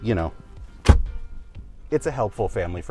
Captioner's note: center console snapping shut